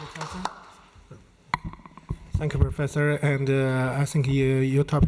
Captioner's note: applause